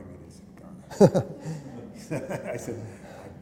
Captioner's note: laughter